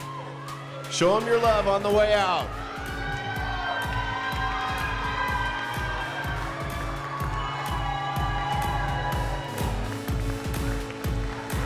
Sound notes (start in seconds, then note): 3.6 crowd cheering; 3.6 upbeat music